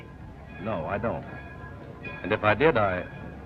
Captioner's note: bells ringing